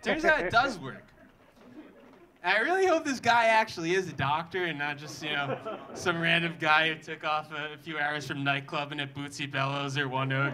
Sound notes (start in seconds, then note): 5.0 audience laughing